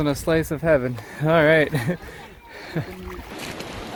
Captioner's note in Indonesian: tertawa